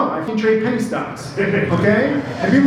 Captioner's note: laughter from audience